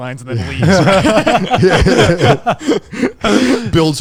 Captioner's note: group laughing